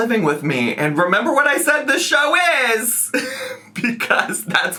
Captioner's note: laughs